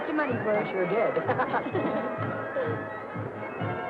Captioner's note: both laughing